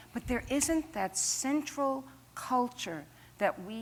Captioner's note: none